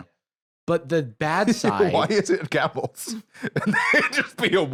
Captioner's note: laughing